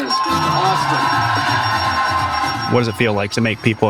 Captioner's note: people cheering